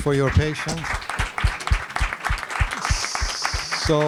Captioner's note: applause